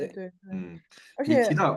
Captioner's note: nonverbal grunt as interjection